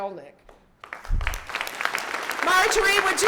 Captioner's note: audience clapping